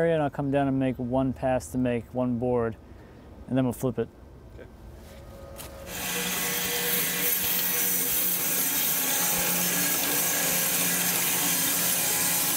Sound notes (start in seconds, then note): 5.2 saw blade humming